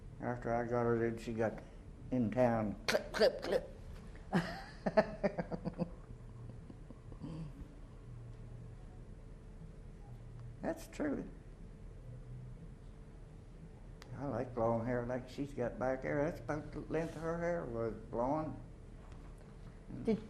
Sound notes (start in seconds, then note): 4.3 chuckles